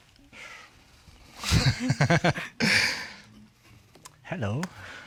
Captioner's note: both chuckle